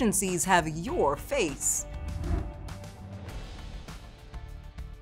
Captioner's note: graphics whooshing